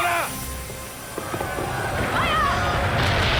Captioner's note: screaming